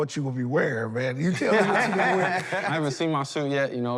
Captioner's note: laughter